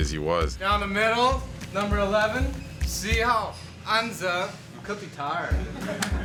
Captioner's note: speaking Chinese